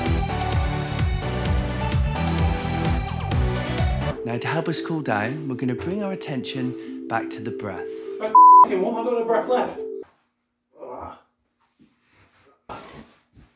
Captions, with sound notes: (upbeat music) Now to help us cool down. We're going to bring our attention back to the breath. (beep) I've got no breath left